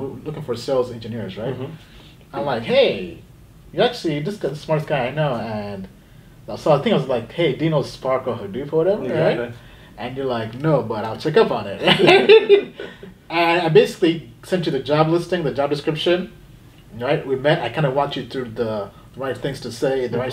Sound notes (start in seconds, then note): 11.8 laughing